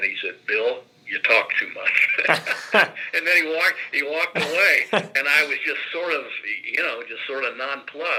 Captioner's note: both Laugh